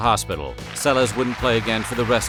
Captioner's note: applause